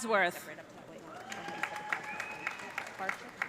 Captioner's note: cheers and applause